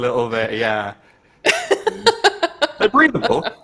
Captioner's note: laughs